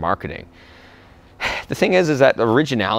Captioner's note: sighs